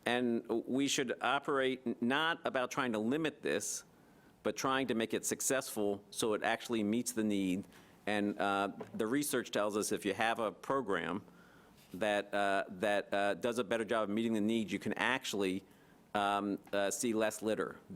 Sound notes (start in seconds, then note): none